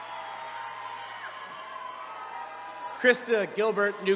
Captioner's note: attendees cheering